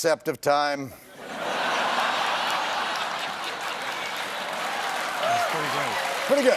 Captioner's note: laughter